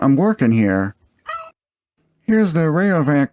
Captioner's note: meow